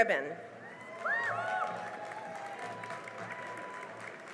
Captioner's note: cheering and applause